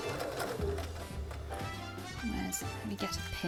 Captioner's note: sewing